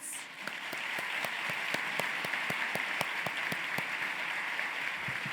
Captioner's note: applause